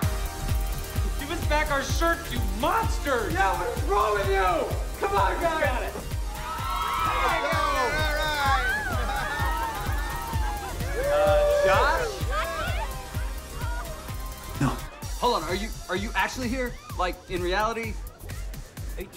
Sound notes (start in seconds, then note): 6.7 crowd cheering; 11.7 laughs